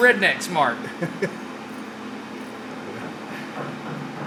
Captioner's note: laughs